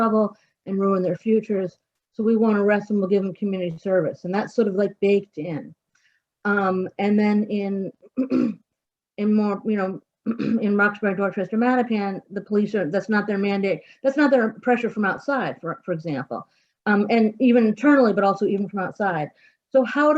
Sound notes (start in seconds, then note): 8.2 clears throat